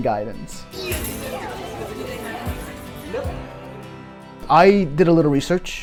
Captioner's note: people yelling